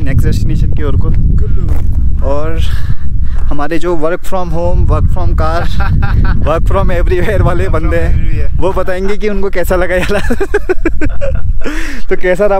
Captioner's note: laughs